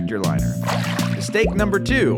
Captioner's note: water splashes